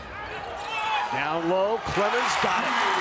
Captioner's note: crowd cheers